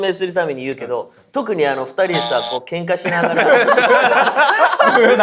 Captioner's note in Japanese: 不正解音